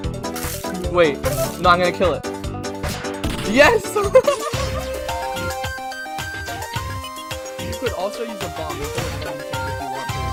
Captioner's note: laughing